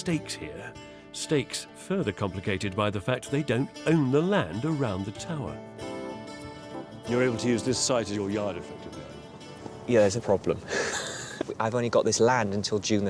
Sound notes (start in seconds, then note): 10.4 laughs